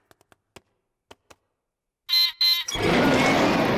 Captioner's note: beeps and roars; laughs